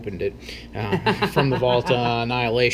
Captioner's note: laughs